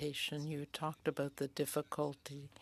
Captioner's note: speaking in French